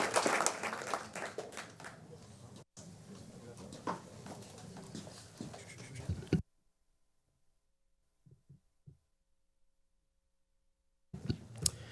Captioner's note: applause